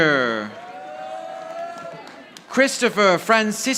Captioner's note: audience applauding